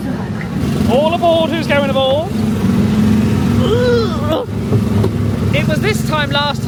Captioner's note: groans